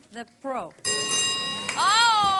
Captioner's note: bell dings